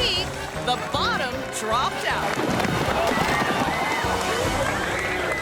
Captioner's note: people clattering